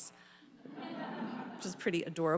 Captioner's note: audience laughing